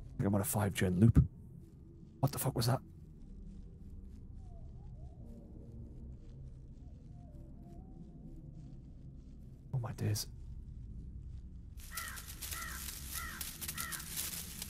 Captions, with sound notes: I'm on a 5-gen loop. What the fuck was that? Oh my dears. (crackling)